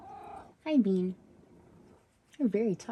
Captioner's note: purr-meow; purrs